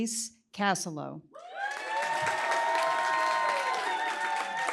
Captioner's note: cheering, applause